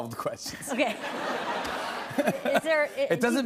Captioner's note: laughter